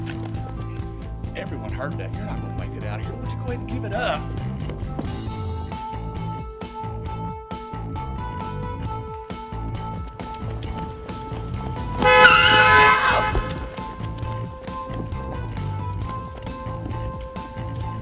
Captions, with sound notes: - Everyone heard that, you're not gonna make it outta here. Why don't you go ahead and give it up. (car horn blaring) (tires screeching) (upbeat music)